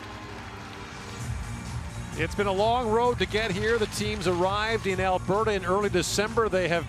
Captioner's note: cheerin